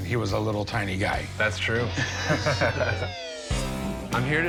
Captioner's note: both laugh